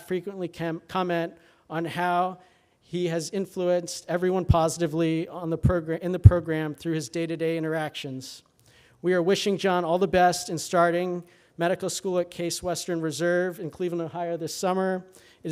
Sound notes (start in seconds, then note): none